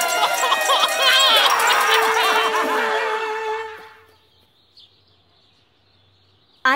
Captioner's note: sobbing